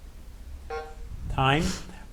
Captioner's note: timer buzzing